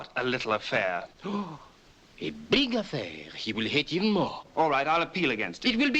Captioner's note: gasps